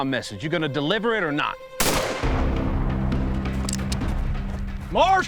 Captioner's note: gun shot